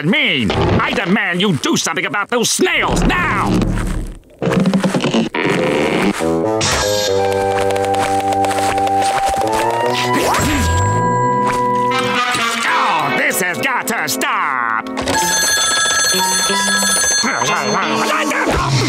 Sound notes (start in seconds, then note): 14.9 phone ringing; 17.0 yelling